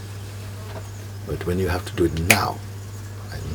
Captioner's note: snaps a finger